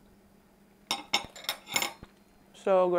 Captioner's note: silverware clinking